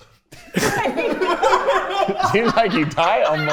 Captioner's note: everyone laughing